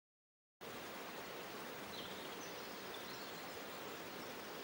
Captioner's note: birds chirping